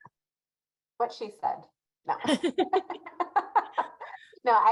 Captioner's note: both laughing